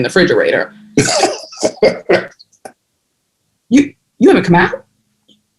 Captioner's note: laughter